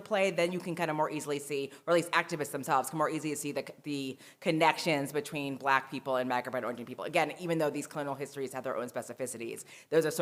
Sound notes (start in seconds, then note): none